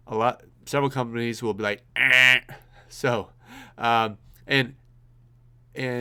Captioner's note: imitates buzzer